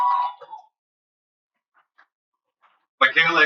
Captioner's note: cheering